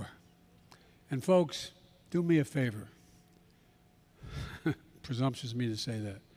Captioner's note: laughs